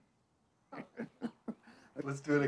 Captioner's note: laughing